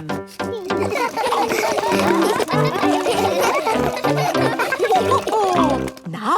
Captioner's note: all laugh